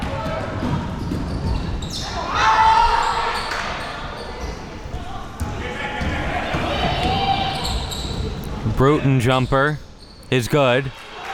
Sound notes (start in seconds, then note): 2.1 audience yelling and talking